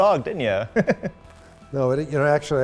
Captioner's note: chuckles